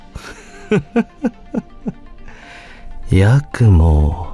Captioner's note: cringe evil laugh